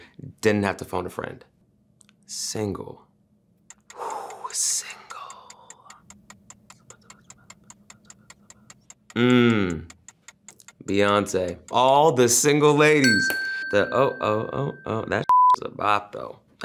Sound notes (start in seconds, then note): 4.0 sighs; 6.1 clock ticking; 13.0 bell dings; 15.0 beep